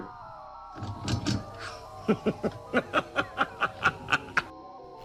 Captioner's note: maniacal laughter